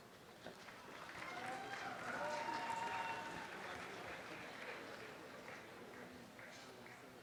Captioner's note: audience applause